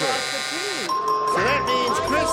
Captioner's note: buzzer